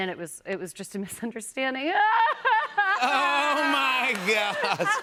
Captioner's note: mock crying